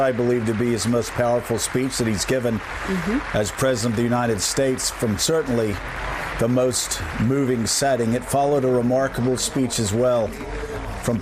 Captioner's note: applause